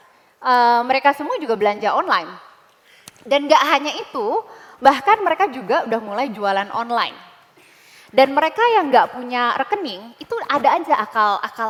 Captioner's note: non-english speech